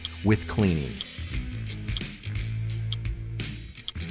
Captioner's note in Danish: uret tikker